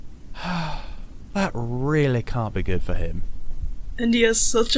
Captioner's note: Sirius sighs